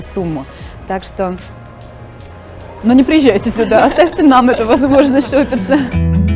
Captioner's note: laughing